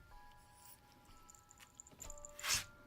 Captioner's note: jingling